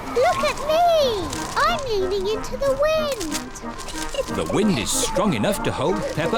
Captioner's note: giggles